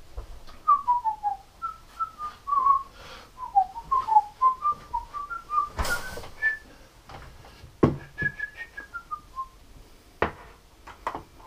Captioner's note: whistling